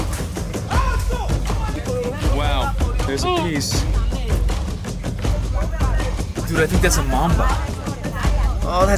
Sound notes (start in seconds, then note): 0.0 men shouting